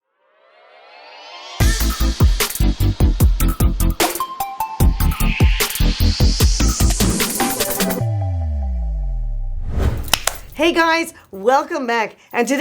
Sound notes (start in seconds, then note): 1.5 upbeat music; 9.5 air whooshes; 10.0 hands smacking